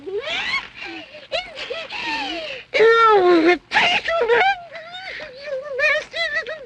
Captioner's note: gasps